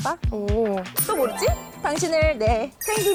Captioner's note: turning sound effect